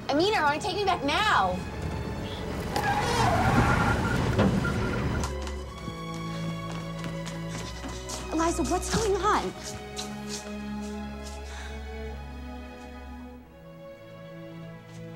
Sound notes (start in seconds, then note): 1.7 tires squeal; 9.9 gentle moving music